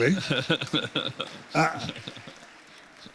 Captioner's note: laughter